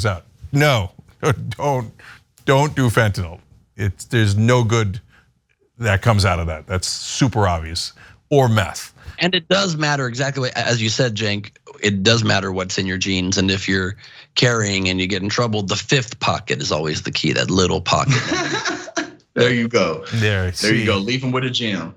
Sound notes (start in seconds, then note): 20.1 laugh